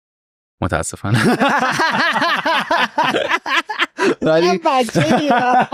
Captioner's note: laughs